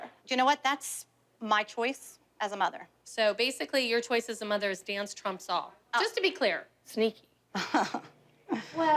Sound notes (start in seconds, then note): 7.6 awkward chuckles